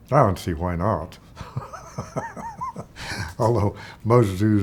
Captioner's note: laughs